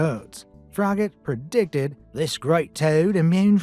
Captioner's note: Australian accent